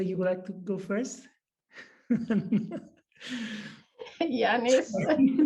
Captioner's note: chuckles; laughter